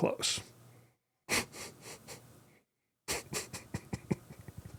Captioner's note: frustrated laughing/crying